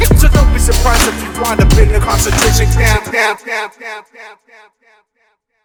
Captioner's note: echo